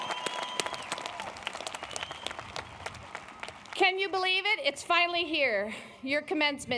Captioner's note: applause